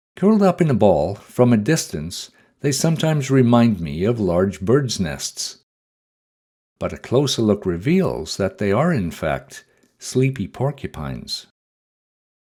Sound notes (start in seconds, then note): none